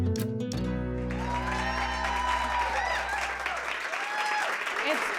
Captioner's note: cheers and applause